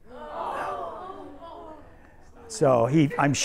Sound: students groan

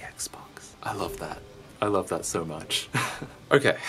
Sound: chuckles

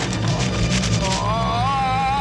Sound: yells

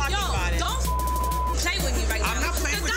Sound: beep

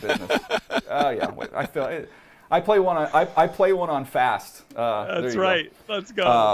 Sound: laughter

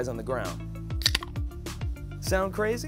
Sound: can popping

